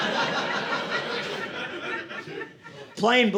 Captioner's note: audience laughing